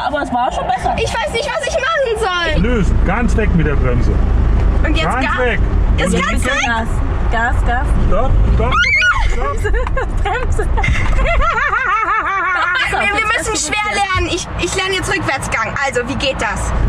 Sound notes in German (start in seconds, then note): 9.6 Quietschen; 12.1 Beide lachen